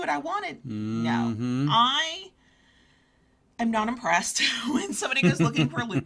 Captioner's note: chuckles